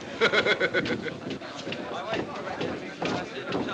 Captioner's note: chattering